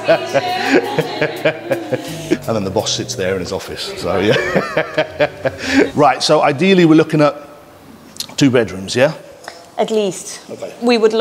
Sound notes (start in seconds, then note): 0.0 laughing continues; 0.0 laughs